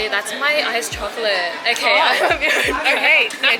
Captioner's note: laughs